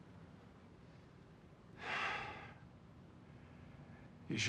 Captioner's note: sigh